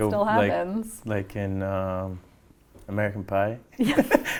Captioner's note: laughs